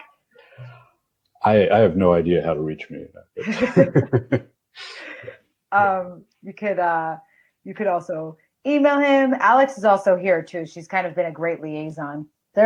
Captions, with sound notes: message him on Slack. - I have no idea how to reach me. (laughs) - You could, You could also email him, Alex is also here too, and she's kinda been a great liaison.